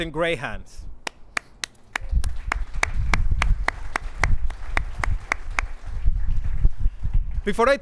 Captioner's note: clapping